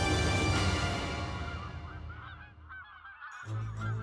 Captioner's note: birds squawking; suspenseful music